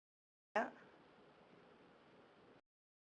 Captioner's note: audio cuts out